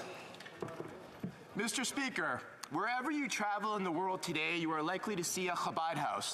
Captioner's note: speaking French